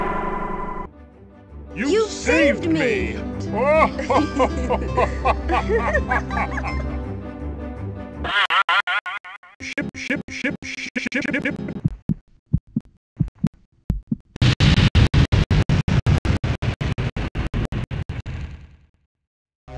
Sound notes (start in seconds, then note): 3.5 laughing; 12.0 heartbeats; 14.4 explosion